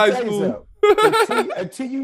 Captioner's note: chuckles